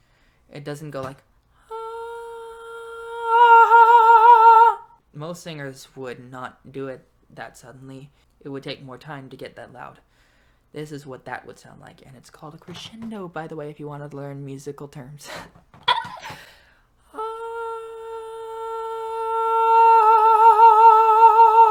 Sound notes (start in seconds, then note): 15.8 laughs